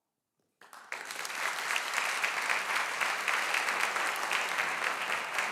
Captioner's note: audience applauding